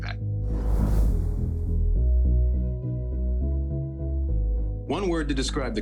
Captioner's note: upbeat instrumental music; image whooshing